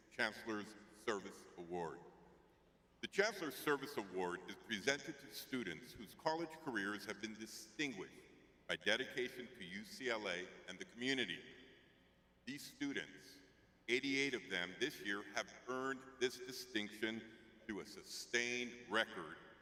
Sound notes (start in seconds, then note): none